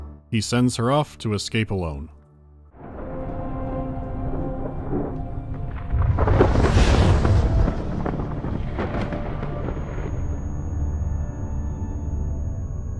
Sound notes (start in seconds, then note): 3.7 quiet rumbling of space thunderstorm; 5.6 woosh; 7.8 quiet rumbling of space thunderstorm